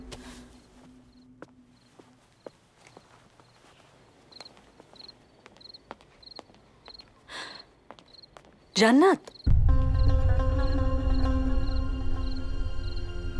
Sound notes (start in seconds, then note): 0.0 Footsteps